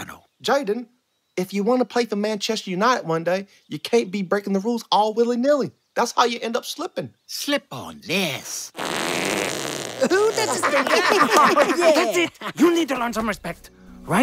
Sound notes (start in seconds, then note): 8.7 farts; 10.0 laughing